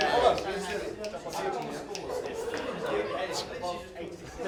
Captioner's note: indistinct chatter